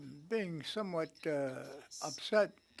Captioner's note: speaking French